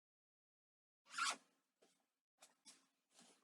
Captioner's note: sound of zipper unzipping